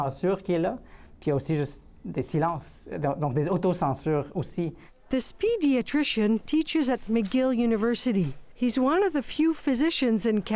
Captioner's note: speaking French